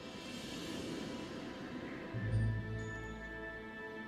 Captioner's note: wind blowing